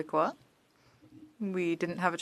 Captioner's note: speaking French